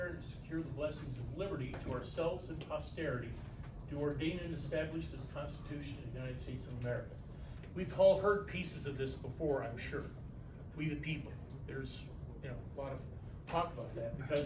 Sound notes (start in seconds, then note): none